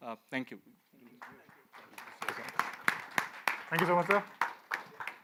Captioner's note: light applause